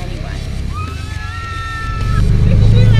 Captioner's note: screaming